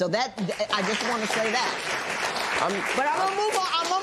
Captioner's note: applause